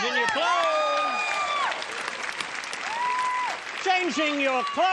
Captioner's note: applause